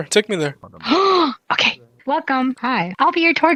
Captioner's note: gasp